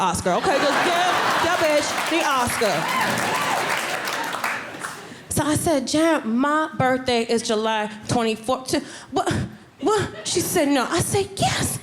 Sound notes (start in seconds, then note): 0.4 audience clapping; 7.2 stuttering; 10.5 audience laughing